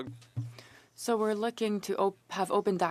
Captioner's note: speaking French